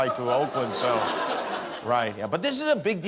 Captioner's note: laughter